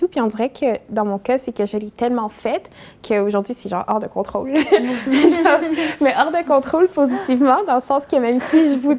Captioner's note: laughs